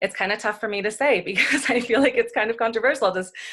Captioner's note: laughs